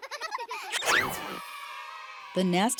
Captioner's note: children laughing; children cheering